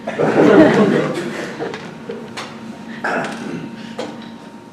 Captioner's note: audience laughs